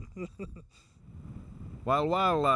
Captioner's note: laughs